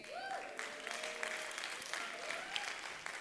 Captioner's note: applause